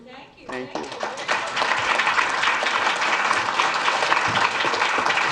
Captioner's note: audience applauds